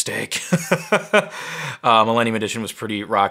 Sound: laughing

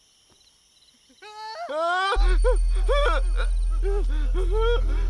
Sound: muffled screams in the distance

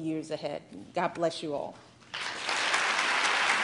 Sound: applause

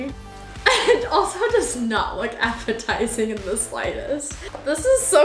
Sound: laughs

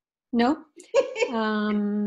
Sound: laughs

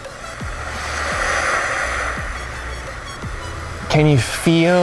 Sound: waves crashing

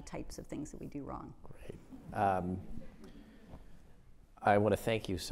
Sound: audience chuckles

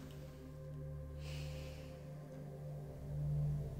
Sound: sighing

